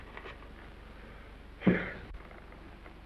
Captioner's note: Mr. Randall exhaling